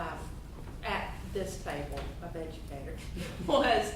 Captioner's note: chuckling